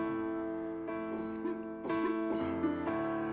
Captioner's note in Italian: tosse affannosa